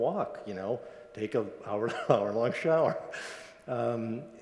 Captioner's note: laughs